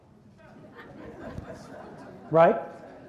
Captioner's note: audience laughs